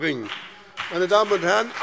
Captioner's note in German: Beifall BÜNDNIS 90/DIE GRÜNEN und CDU